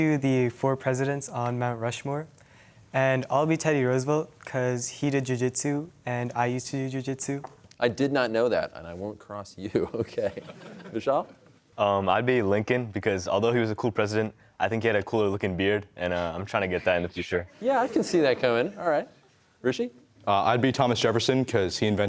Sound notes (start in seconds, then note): 9.8 chuckles; 9.8 laughter